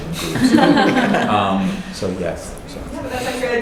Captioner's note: laughing